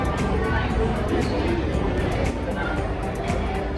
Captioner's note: buffet background noise